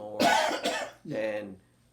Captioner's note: coughing